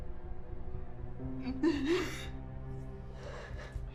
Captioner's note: Sarah sobs